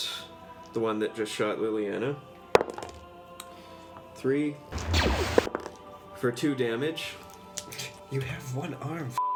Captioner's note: dice roll